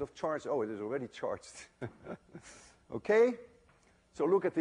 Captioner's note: chuckles